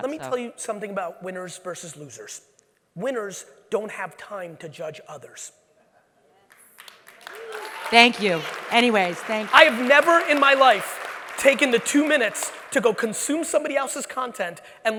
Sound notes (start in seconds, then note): 6.7 audience applauds and cheers